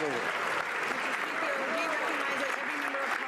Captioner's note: some Applause